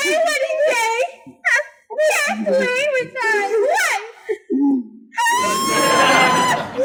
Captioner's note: howl